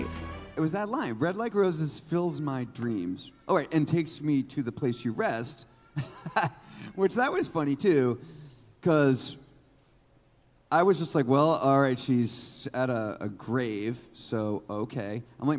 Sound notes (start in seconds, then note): 5.8 laughs